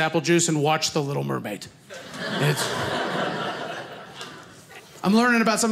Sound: audience laughing

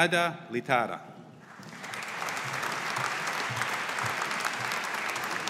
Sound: audience applauding

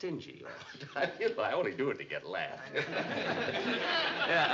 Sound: giggling

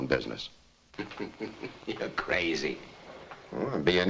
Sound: laughing

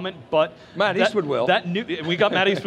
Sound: laughs

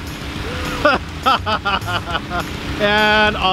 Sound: laughing

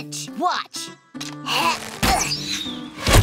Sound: grunting

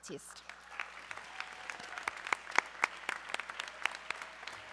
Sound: audience cheering

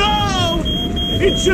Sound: panicing

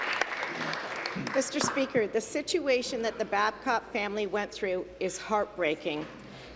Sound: applause

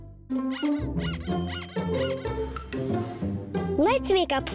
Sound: squeaking

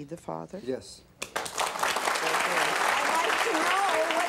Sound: applause

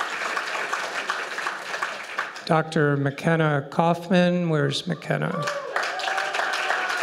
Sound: applause; applause

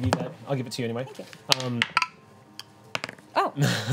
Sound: dice clatters

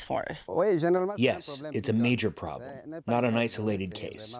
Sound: through translator

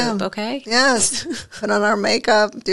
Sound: chuckles

